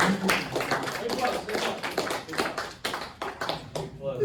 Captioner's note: applause